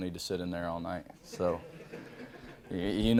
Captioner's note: reporters laughing